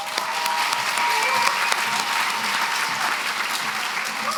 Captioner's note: applause